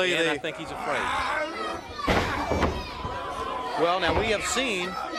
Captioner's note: crowd chatter